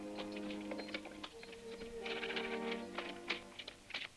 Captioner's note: hooves clopping